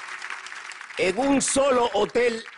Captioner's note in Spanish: aplausos